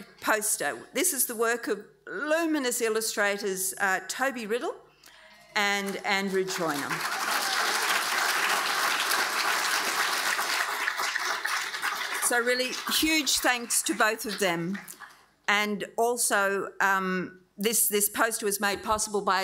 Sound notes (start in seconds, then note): 6.3 audience applauding; 7.0 audience cheering